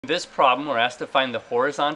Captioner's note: voiceover